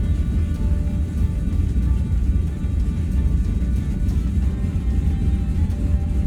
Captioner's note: propellors rumbling; rhythmic music